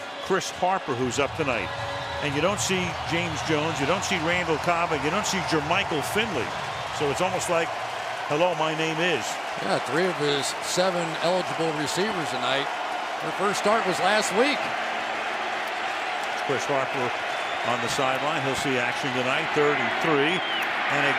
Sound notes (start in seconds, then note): 15.3 cheering